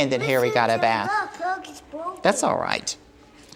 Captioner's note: child speaking